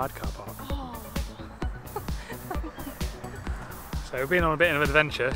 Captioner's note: grumbles